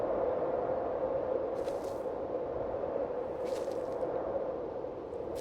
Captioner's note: wind whistling continues; footsteps crunching